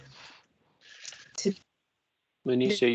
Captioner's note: interruption in audio